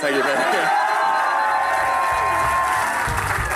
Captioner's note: crowd cheering; rock music